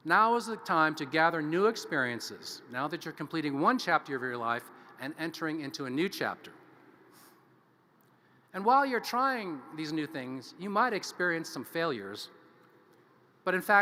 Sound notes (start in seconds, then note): none